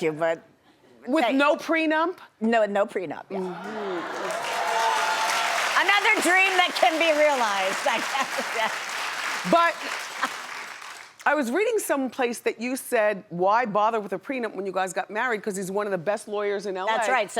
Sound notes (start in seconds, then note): 3.4 audience cheers; 3.6 audience applauds; 7.8 laughs